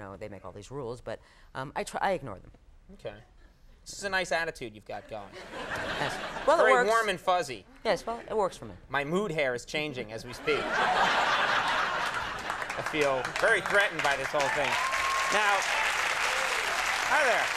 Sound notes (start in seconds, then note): 10.4 audience laughs; 15.0 audience applauds